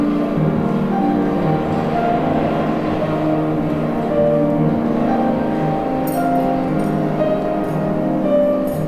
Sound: subway noises

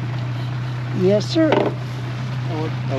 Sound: boat engine idling

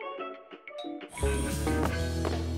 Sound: bell dings

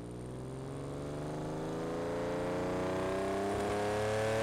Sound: car engine revs

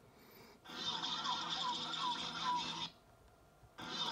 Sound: Various Pokémon noises

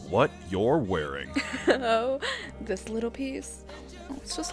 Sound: chuckles

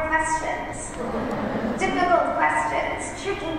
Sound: laughter

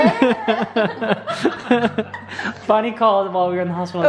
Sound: laughing

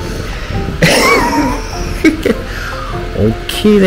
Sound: laughs

